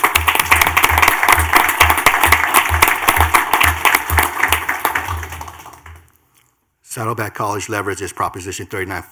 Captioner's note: clapping